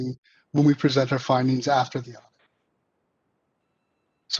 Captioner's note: faintly speaking